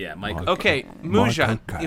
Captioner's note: Michael Caine voice; fumbling Michael Caine impressions